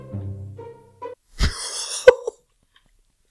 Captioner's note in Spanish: Se ríe